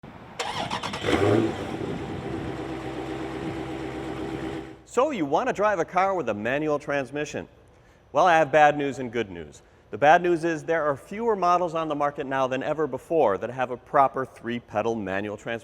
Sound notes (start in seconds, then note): 0.4 car engine turning over